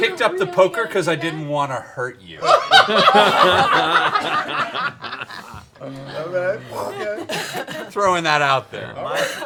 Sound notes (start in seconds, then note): 2.4 laughter